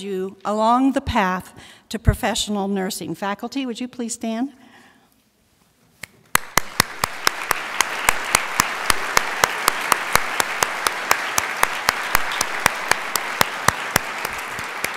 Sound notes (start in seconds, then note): 6.3 crowd applauds